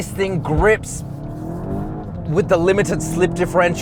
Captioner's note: car engine accelerating